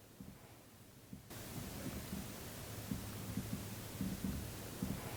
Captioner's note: faint footsteps